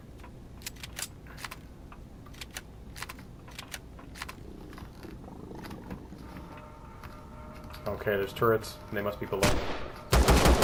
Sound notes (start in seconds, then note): 0.1 aliens growling; 0.5 weapons clicking; 5.1 turrets turning; 9.4 turret firing; 10.1 reloading; 10.1 pistol firing